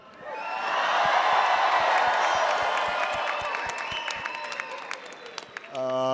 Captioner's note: attendees applauding and cheering